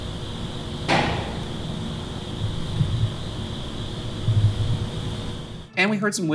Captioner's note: mysterious clicking noise